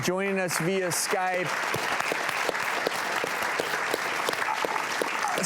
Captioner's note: audience applauds